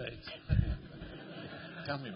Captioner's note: laughter